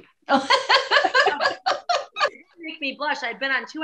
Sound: laughs

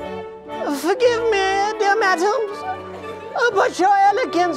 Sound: high, weak voice

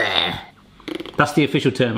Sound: raspberry noise

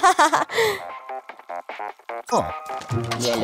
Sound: chuckles; funky ringtone returns; mysterious music returns

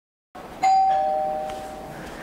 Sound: door bell ring

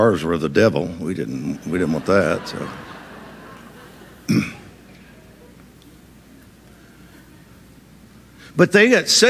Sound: audience laughs

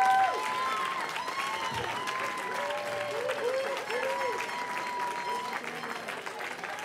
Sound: cheering

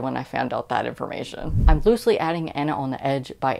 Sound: woosh

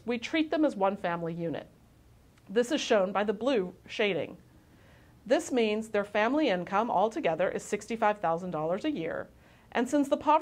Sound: click

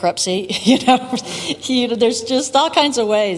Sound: laughs

